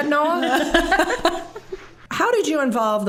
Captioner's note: all laughing